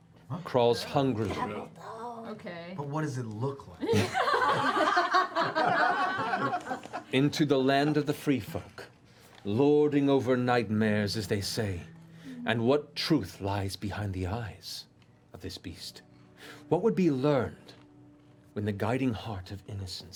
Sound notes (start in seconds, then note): 3.8 laughter